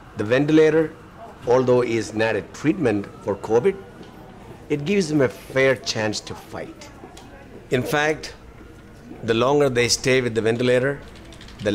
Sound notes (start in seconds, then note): none